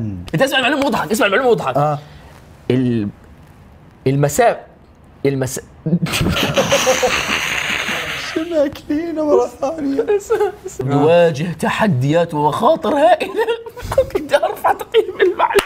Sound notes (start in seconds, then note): 5.9 both laugh 😂; 12.9 laughing